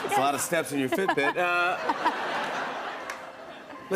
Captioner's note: laughter